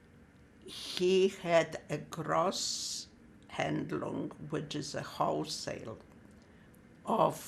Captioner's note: german